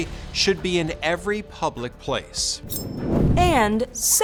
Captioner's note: air whooshes